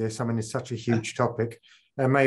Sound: chuckles

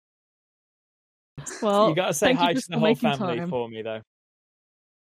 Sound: laughs

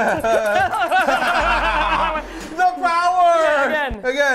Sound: evil laughter

